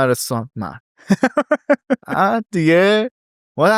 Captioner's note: laughs